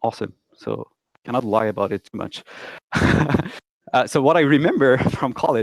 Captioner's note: laughs loudly